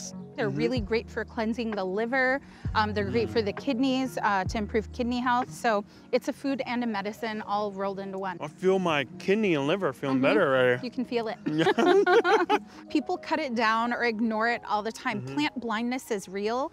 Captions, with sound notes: - They're really great for cleansing the liver. They're great for the kidneys, to improve kidney health. So it's a food and a medicine all rolled into one. - I feel my kidney and liver feeling better already. - You can feel it. (both laugh) People cut it down or ignore it all the time. Plant blindness is real.